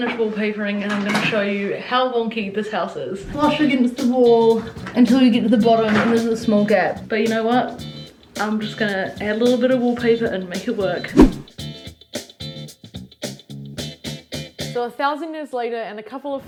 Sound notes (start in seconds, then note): 11.1 swoosh; 11.6 upbeat music